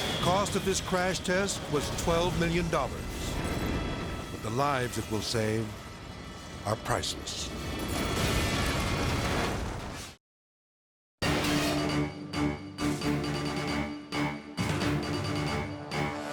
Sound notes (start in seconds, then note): 0.0 jet engines roaring; 7.2 flames roaring; 11.2 energetic dramatic music